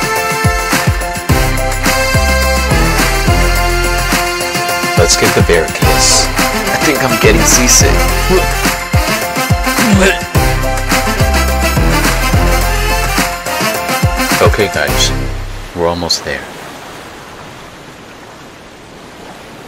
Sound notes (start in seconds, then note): 8.0 regurgitates And Barf